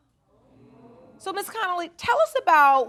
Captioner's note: audience murmuring